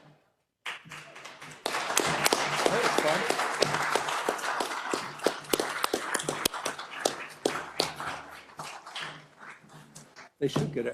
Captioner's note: applause